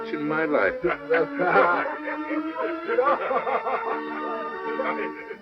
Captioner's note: laughter